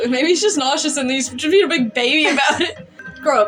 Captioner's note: chuckle